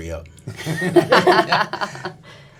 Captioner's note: laughs